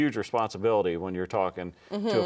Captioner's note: laughs